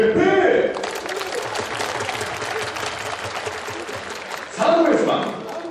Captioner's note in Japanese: 拍手